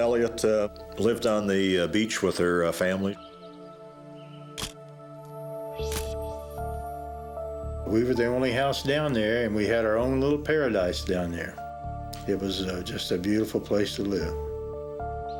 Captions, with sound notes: LYNN ELLIOTT LIVED ON THE BEACH WITH HER FAMILY. [camera shutter click] WE WERE THE ONLY HOUSE DOWN THERE AND WE HAD OUR OWN LITTLE PARADISE DOWN THERE, IT WAS JUST A BEAUTIFUL PLACE TO LIVE.